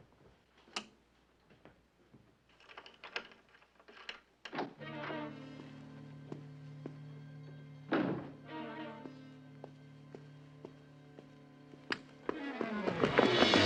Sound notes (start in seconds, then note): 4.4 kapı açılışı